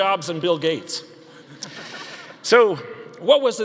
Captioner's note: audience laughing